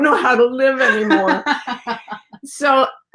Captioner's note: laughing